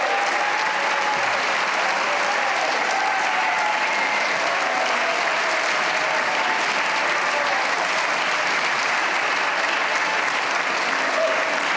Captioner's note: cheers and applause